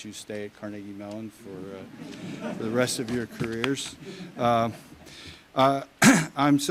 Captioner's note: audience chuckles